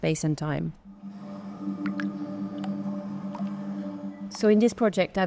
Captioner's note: pensive music; water dripping